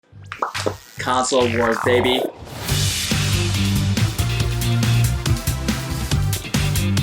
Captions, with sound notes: (smacks lips) - Console wars, baby. (upbeat music)